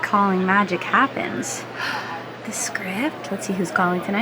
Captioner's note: gasps